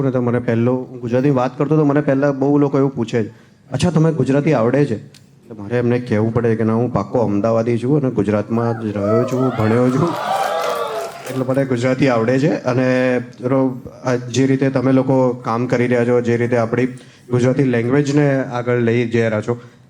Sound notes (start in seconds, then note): 10.2 crowd applauding